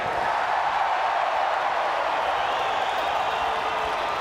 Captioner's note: crowd cheers